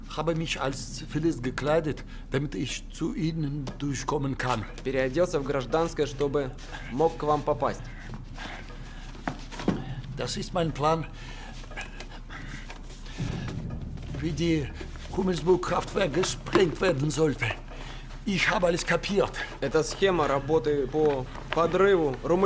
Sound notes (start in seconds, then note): 0.1 speaking German; 10.1 speaking German; 14.2 speaking German